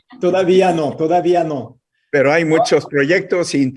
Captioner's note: in Spanish